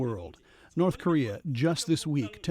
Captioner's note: speaking foreign language